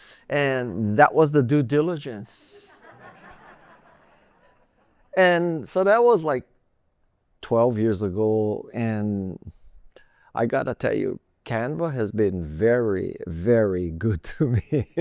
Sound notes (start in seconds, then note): 2.8 laughter